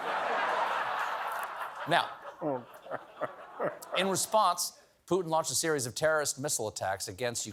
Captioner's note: laughter